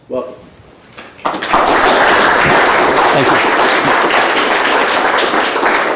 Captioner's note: applause